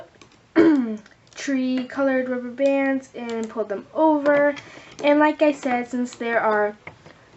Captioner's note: clears throat